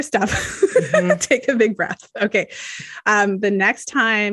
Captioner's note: laughs